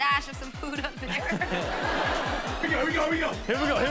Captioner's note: laughing; all laugh